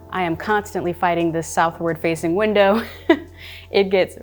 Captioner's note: chuckling